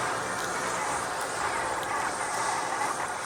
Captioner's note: crunch of locust bodies